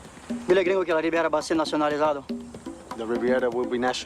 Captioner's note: Spanish